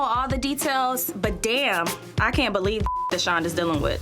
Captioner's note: beep